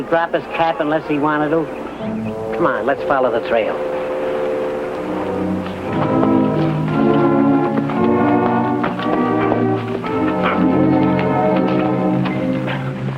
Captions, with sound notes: drop his cap unless he wanted to? Come on, let's follow the trail. (foreboding tense music) (horses trotting)